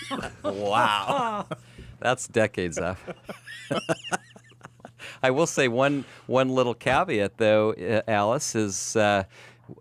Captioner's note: laughs